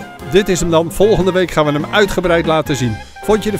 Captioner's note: voiceover